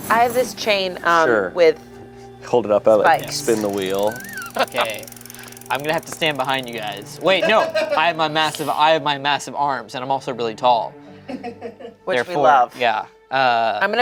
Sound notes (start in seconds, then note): 4.0 laughs